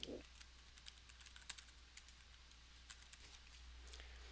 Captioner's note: keyboard clicking